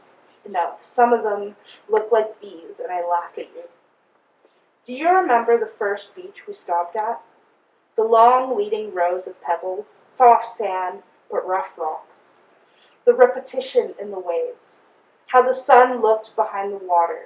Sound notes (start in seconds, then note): none